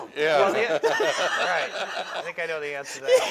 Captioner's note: laughing